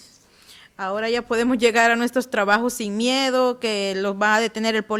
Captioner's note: speaking Spanish